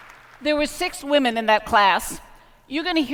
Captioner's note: applause